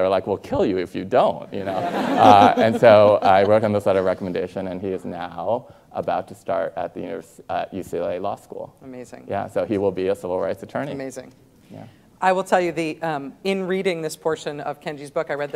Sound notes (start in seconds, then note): 1.6 students and Rachel laughing